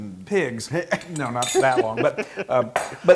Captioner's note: laugh